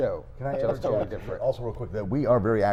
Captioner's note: chuckles